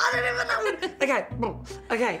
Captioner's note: laughter